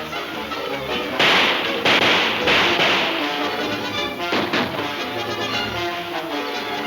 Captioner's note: dramatic music; guns firing